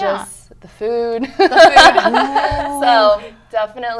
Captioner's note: laughter